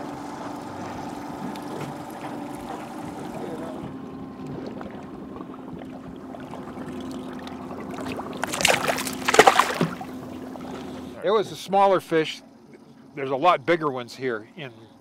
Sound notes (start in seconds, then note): 0.0 boat engine idling; 5.4 boat engine idling; 6.2 fish splashing